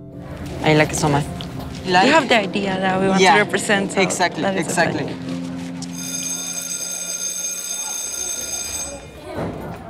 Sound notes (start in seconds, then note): 5.8 school bell ringing